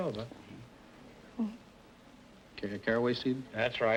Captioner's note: whispering